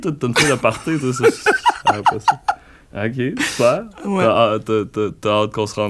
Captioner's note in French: éclat de rire